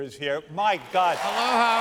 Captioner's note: cheers and applause